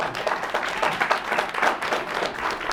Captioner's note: audience applauds